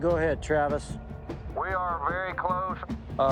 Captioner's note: over walkie